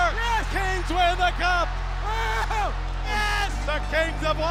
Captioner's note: players yelling